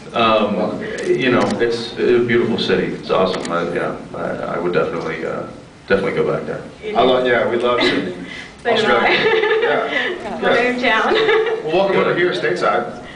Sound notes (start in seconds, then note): 8.8 laughing; 8.8 laughs